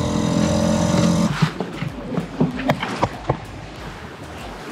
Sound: engine roaring; boat dragging

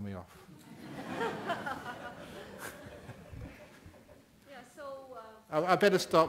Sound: laughter from the audience

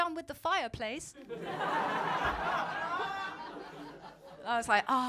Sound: laughter

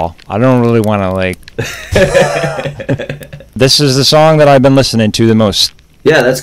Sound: laughter

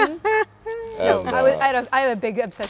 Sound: Winona laughing

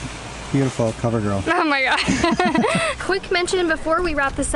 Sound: laughter

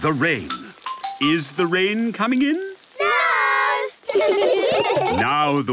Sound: laughter

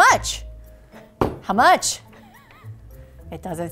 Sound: laughing

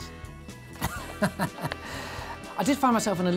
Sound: laughing

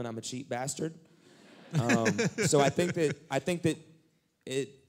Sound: laughter

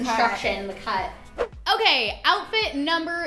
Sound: whooshing

